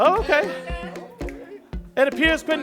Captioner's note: chatter